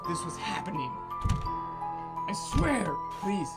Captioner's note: door rattles